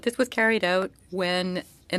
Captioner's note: speaking French